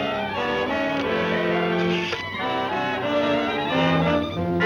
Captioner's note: dial whirring